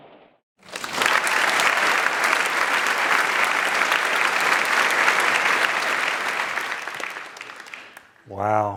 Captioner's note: applause